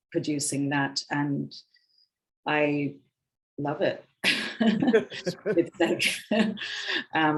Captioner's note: women chuckling